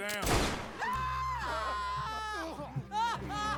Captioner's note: wailing